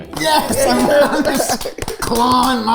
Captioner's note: group clapping